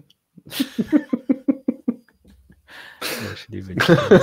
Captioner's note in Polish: śmiech